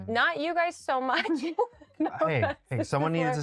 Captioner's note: both giggle